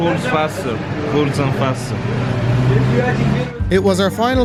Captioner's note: car engine sputtering